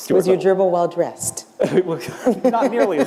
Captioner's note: laughter